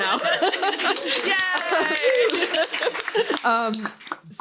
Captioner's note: applause